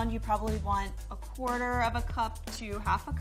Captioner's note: none